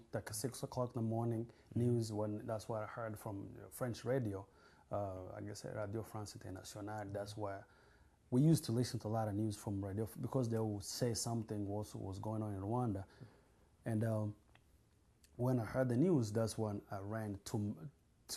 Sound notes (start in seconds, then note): 6.2 non-english